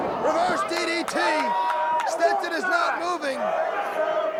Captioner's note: crowd chatter